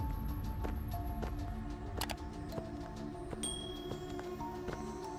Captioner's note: dramatic music continues; footsteps fall